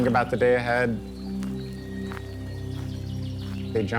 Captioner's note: grassy foosteps; birds chirping